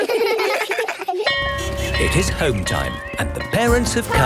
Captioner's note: laughter; bell clanging